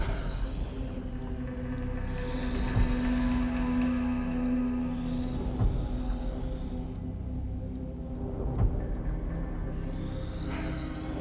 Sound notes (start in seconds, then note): 0.0 spider hissing; 6.8 clock ticking; 10.6 spider hissing; 10.6 tense music